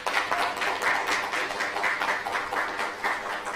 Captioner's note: applause